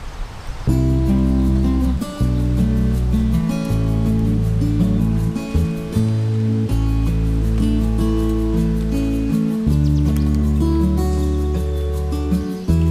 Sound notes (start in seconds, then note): none